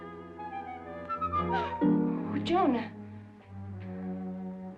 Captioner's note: bright music; gasps